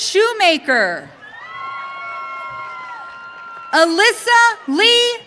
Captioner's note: audience cheering